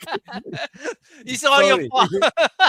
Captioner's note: laughter